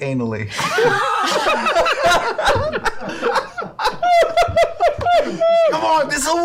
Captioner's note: laughter